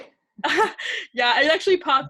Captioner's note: laughs